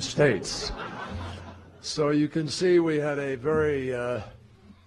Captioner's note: laughter